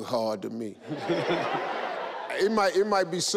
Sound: audience laugh

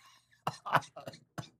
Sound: coughing

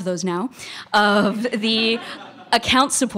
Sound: laughter

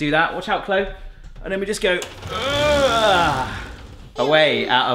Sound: strains dramatically

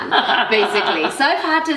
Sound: laughing

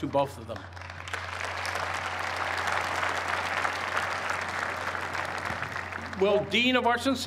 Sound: applause

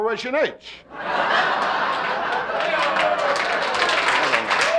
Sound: audience laughing

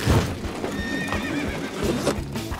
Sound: horse neighing

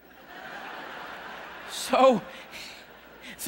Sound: audience laughing

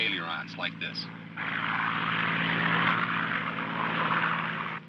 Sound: buzzing

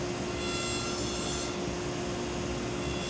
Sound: saw zings

